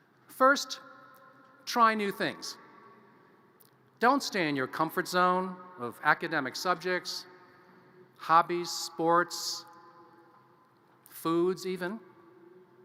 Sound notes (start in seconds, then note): none